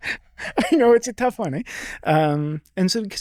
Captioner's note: chuckling